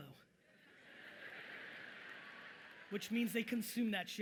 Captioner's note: audience laughing loudly